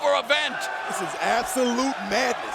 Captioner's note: fans chanting